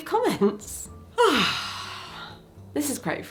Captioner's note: person breathing